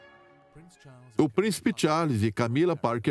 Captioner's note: voiceover